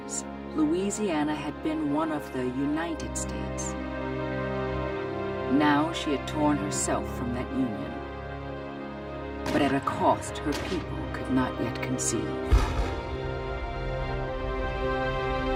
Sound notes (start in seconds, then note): 12.4 gunfire